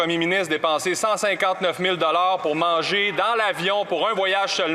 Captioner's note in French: voix de l'interprète